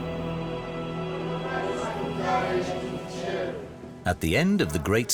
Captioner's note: peasants praying